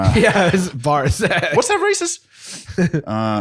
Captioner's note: laughs